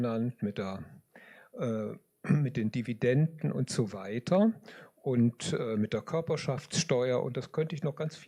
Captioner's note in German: räuspern